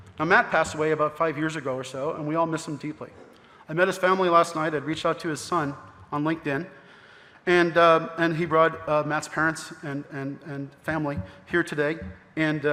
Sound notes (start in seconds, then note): none